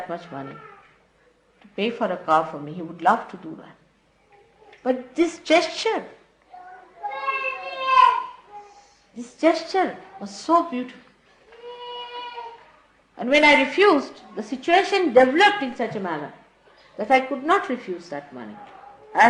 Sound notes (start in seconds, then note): none